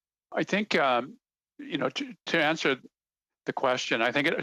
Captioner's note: speaking French